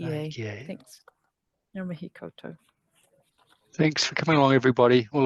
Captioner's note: speaks te Reo Māori